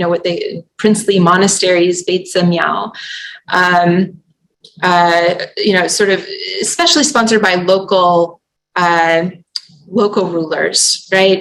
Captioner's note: non-english